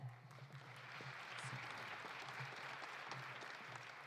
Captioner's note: audience applauding